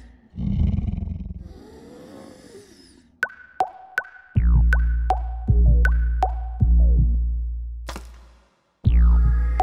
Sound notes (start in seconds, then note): 0.2 bear growls; 3.0 bear snoring; 5.3 heartbeat in rhythm with water drops